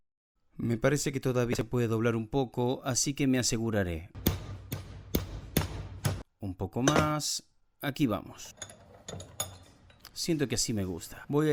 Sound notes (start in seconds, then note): 4.1 Se oye el martillo